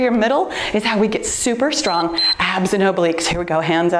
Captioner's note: timer beeps